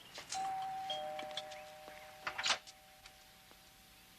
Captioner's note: doorbell ringing